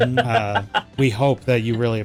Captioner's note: laughter